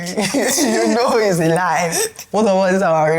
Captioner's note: laughs